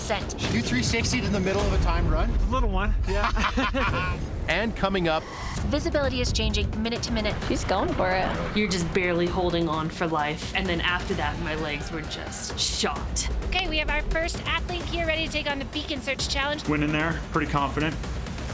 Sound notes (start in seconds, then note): 3.0 laughing loudly